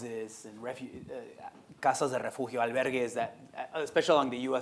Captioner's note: speaking Spanish